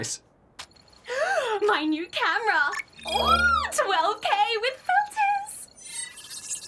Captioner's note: gasps